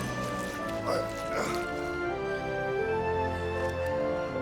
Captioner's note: Ross groaning